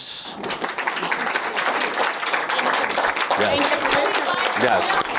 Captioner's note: audience applauding